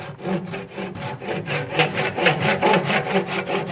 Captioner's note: scratching saw sound